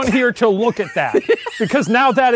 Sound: laughing

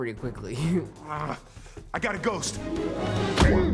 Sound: snarl

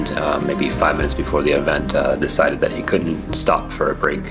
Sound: none

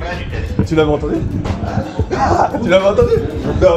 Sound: laughs

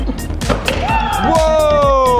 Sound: cheers

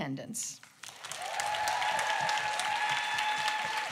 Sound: applause

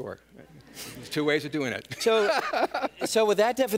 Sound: laughs

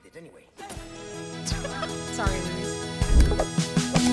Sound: laugh

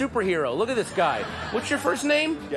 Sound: audience laughter

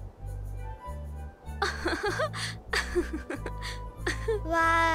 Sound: laughing

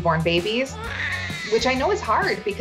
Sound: baby crying

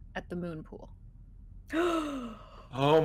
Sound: person gasping

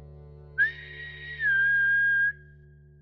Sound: whistle

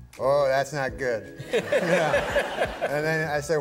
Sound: laughter

